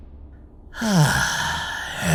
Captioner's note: sighs